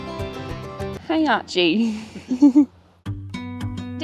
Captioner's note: laughing